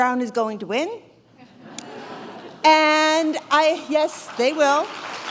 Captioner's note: laughter; applause